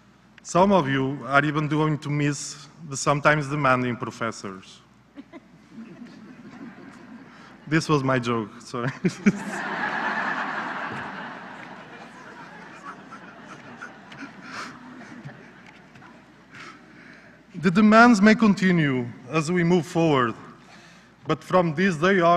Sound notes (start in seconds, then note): 5.1 laughter; 13.8 laughter